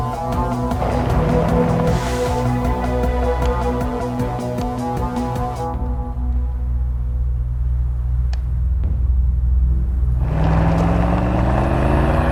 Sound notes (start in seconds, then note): 0.0 engine revving; 3.1 buttons clicking; 7.9 button clicks; 9.8 engine revving; 12.1 suspenseful music